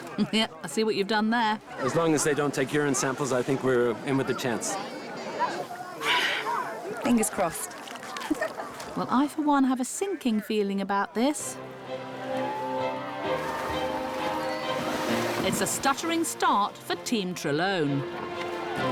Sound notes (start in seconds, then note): 0.2 chuckles; 6.0 sighs; 8.1 giggles; 12.1 cheering